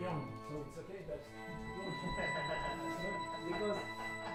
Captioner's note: laughing; melodic sound playing